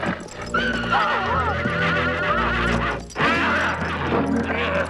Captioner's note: horse neighing